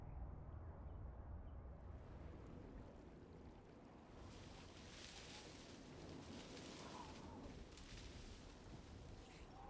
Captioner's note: leaves rustling